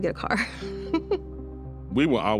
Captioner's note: chuckles